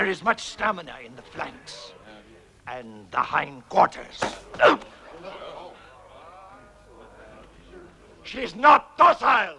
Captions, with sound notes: There is much stamina in the flanks, and the hind quarters. (Grunts) She is not docile!